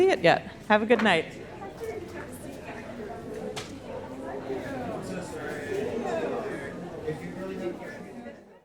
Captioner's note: audience chattering